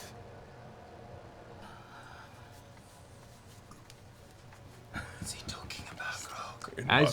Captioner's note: whispers